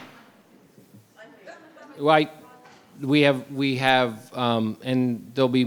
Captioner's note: participant faintly speaking